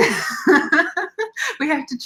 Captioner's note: laughing